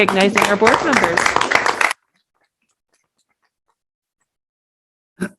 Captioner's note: audience applauding